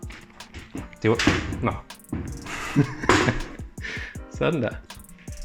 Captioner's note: laughs nervously